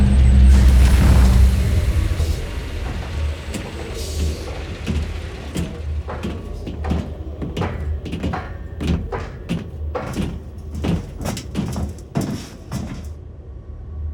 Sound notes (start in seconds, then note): 5.8 footsteps marching